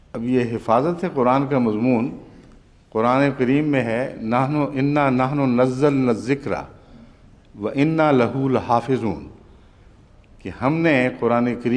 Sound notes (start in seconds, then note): 4.3 Arabic